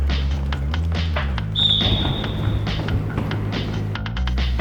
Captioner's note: whistle